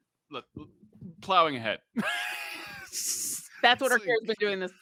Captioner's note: laughs